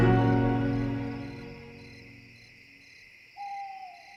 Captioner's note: crickets chirping